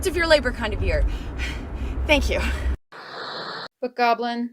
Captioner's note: gasp